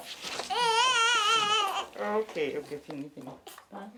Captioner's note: baby crying